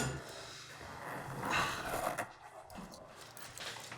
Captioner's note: grunts